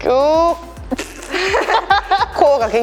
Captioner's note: laughter